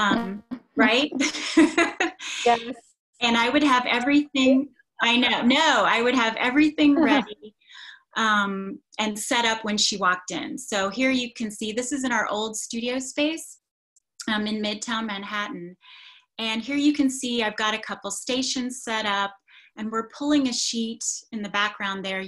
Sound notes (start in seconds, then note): 1.1 laughs